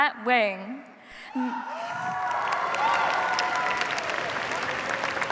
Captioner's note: cheers, applause